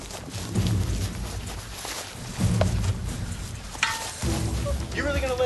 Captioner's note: metal clangs